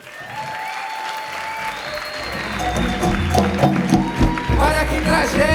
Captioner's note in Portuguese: Palmas